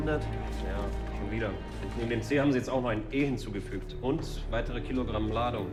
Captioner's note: speaking in foreign language